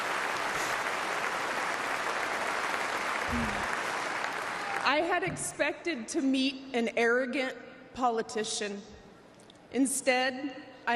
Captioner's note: applause